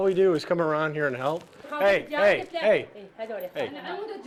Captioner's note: woman speaks in Arabic; woman continues speaking in Arabic